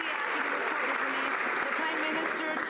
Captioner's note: applause